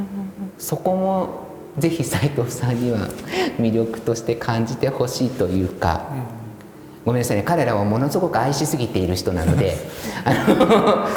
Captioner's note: laugh